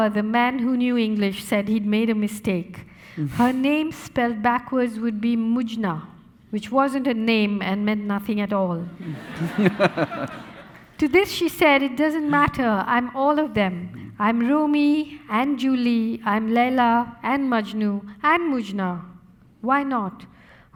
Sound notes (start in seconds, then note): 9.0 laughing; 9.0 audience laughing